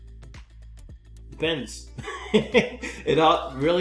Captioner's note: laughing